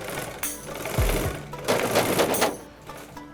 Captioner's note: door knocks